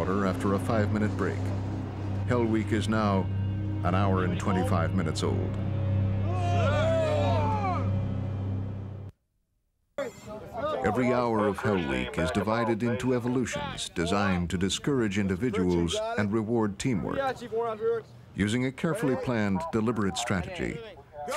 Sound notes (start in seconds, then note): 6.4 yelling; 10.6 voiceover